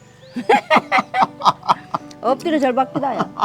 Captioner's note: both laughing